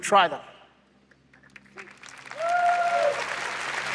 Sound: applause

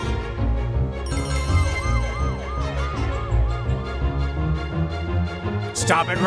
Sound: Morphle tranforms & siren wails

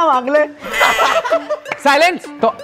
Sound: laughing

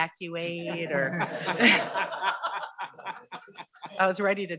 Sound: audience laughing

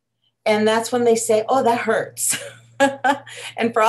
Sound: laughs

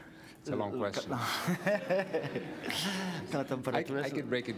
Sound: laughter

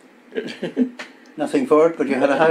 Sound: laughs

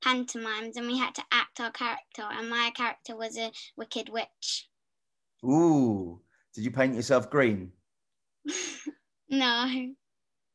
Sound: laughs

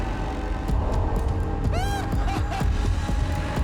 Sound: chuckles

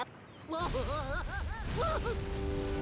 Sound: Daffy screaming

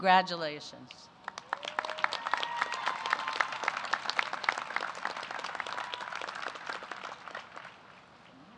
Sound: applause

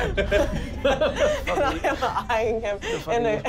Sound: laughing

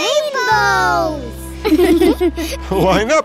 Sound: laughing

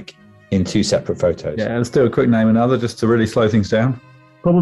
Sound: none

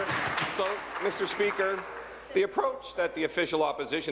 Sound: applause

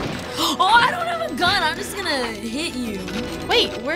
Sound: gasps

